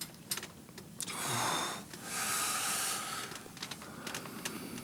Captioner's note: John groans